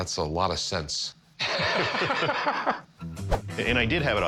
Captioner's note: laughter